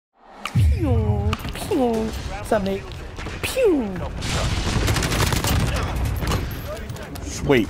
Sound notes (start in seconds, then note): 0.5 Gary imitates laser firing; 3.6 imitates laser firing; 4.0 gunshots booming